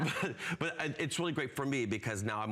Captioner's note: laughter